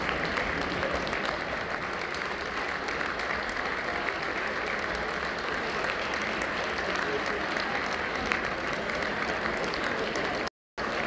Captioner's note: applause